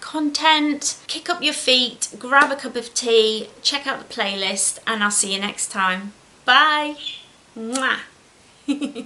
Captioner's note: giggles